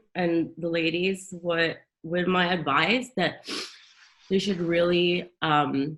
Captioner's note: sniffs